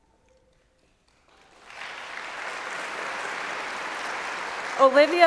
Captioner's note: applause